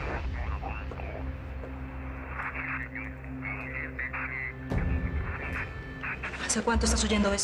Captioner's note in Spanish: Voces en el radio